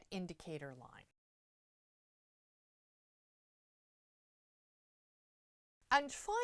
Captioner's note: no Sound Present